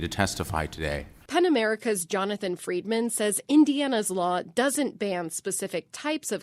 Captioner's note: voice-over